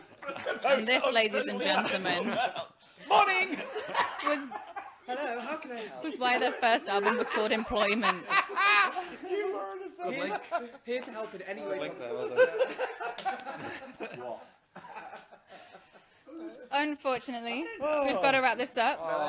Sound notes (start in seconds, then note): 6.9 lots of laughter in the background; 8.6 whilst laughing